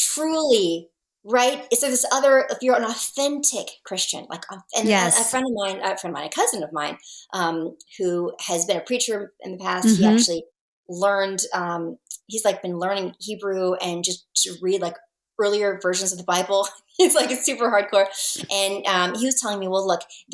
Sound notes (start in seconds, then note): 17.3 laughs